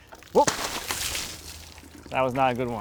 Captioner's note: yells; water splashing